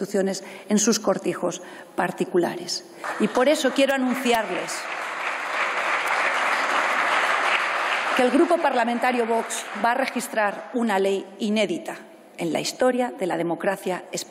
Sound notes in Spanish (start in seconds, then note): 2.5 Aplausos